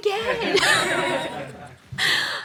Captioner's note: host and crew laugh